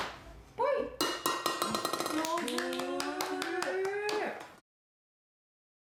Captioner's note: sound of a can, clang